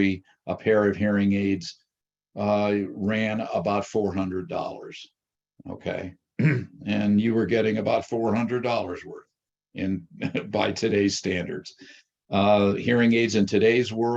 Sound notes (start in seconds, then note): 10.1 chuckles